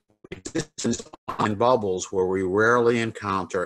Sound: crackling drowns out

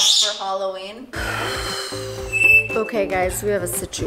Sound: sighing

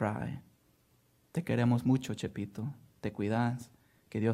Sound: speaking spanish

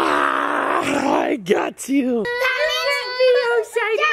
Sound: crying

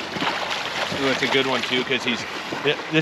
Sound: fish splashing

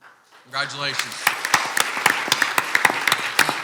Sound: clapping

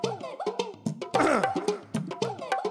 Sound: cough

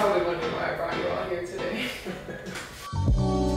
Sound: laughs; slow music

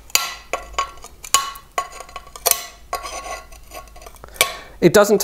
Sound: crackling and snapping

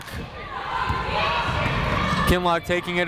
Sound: people shouting in the crowd

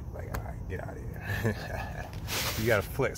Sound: laugh

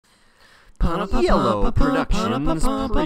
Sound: fanfare vocalizing

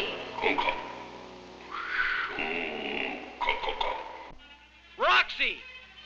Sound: speaking in a foreign language

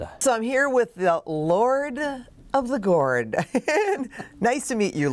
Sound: laughs

